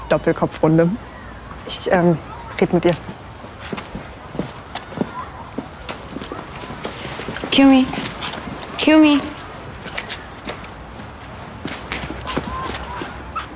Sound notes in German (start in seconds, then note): 3.7 Schritte entfernen sich